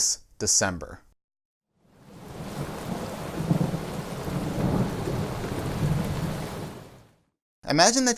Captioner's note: thunder